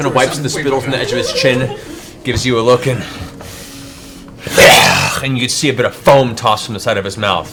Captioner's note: growls